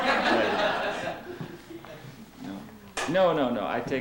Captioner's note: laughter